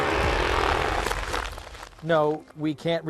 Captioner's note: cracking